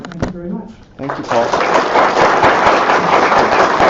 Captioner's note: applause